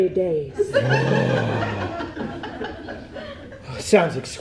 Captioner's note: audience laughs; Wink gasps loudly